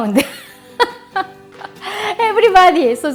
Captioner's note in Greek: γέλιο